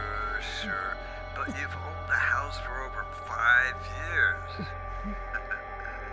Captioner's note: laughs